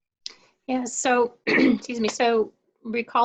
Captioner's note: clears throat